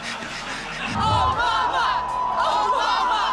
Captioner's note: hearty laughter from audience